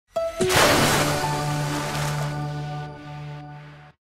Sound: splash

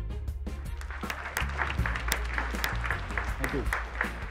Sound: audience applauding

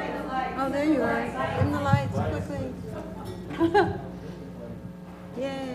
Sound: laugh

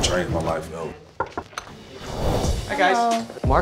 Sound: knocking

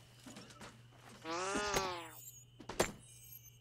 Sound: Wall-E Whirring

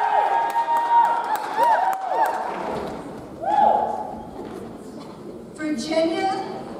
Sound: audience cheers; audience applauds

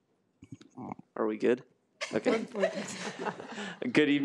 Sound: chuckles

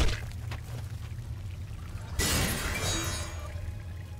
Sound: blow landing; eerie music

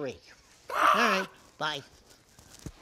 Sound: Zifid groans

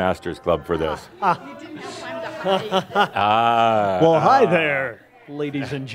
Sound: surprised laughter coming from the Club

